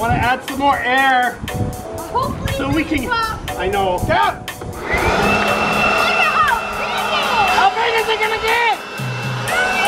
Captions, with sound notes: - I want to add some more air. - Hopefully, it doesn't pop. - So we can... I know, (air blower roaring) - Look at how big it is. - How big is it gonna get?